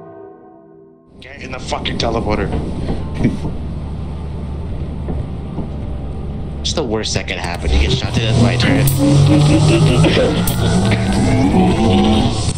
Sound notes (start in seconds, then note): 0.0 bells toll; 2.7 light footsteps on metal; 9.0 teleporter whirring